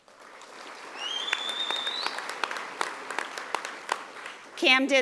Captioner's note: audience applauding